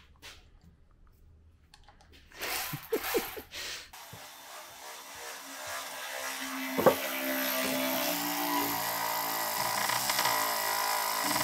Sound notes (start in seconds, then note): 3.9 tool whirring